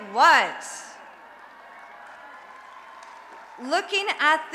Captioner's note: applause and Cheering